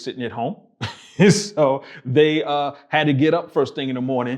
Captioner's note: laughing